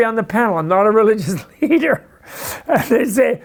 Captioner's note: laughs